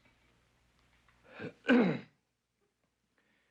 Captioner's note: clears throat